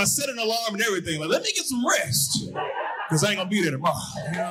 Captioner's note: audience hooting